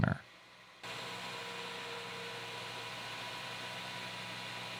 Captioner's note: machine whirling